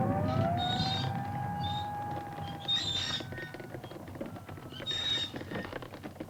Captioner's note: eerie music continues; cart wheels continue creaking